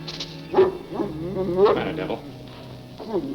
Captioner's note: soft suspenseful music; Devil grumbling